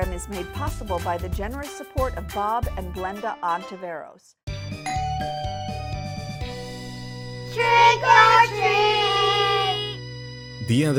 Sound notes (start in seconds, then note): 4.5 upbeat music; 4.8 doorbell ringing